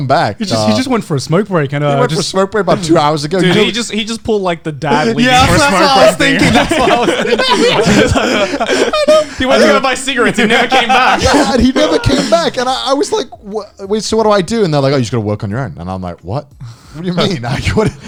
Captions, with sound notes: - He just went for a smoke break and-- - He just went for a smoke break about two hours ago. - Dude he just pulled like the dad leaving for a smoke thing. - Yeah, that's what I was thinking. (laughing) - He went to buy cigarettes he never came back. - He never came back and I was like, "So what should I do?" And they're like, "Oh, you're just gonna work on your own." And I'm like, "What? What do you mean?